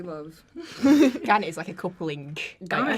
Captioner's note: the cast laugh